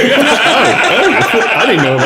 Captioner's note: laughing